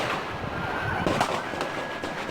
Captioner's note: sirens